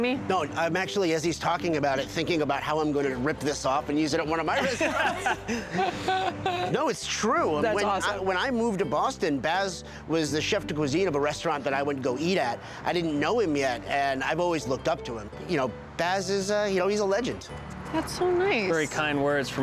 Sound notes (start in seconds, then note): 4.6 laughter